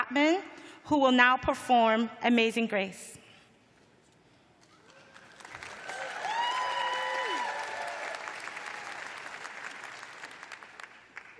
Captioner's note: cheers and applause